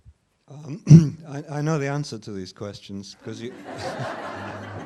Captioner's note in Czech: smích